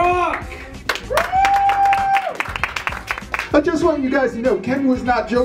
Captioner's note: applause